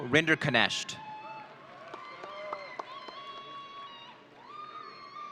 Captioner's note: audience cheering